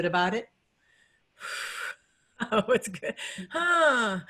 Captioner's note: laughs